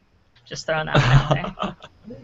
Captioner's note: laughing